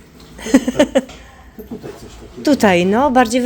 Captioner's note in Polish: śmiech